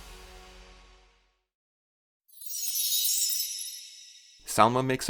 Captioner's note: chime